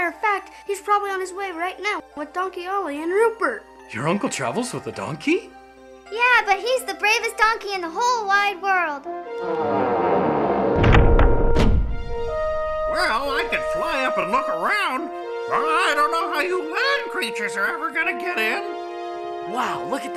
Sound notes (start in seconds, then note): 9.4 דלתות חורקות